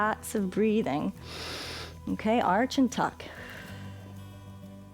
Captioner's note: inhales